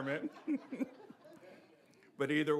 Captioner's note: both laughing